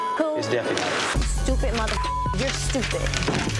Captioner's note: beep; beep